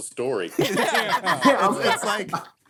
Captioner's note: laughing